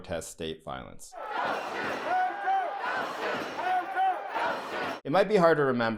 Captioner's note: protesters chanting